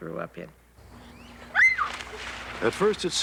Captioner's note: scream